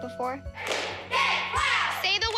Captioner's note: all chanting